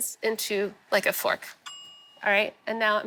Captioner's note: bell dings